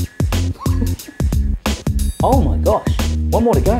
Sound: laughs

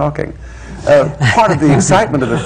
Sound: laughter

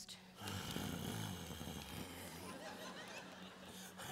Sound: Tristan growls

